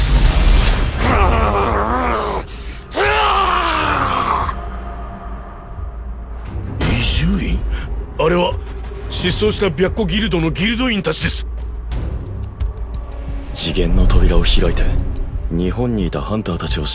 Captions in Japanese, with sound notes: [叫び声] [うめき声] 次元の扉を開いて日本にいたハンターたちを信時にイタリアまで連れてきたのか。白川ハンター近づかないでください。